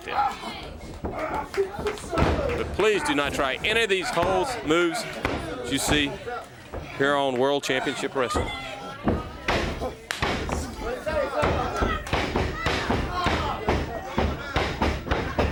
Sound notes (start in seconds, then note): 2.9 crowd chatter; 14.0 crowd chatter